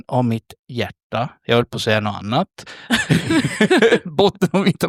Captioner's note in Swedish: skratt